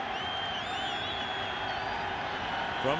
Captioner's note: whistle blows